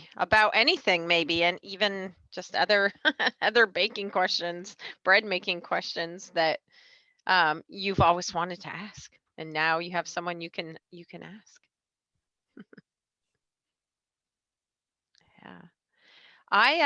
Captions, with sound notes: About anything maybe, and even just other baking questions. Bread-making questions that you've always wanted to ask, and now you have someone you can ask. (chuckling) Yeah.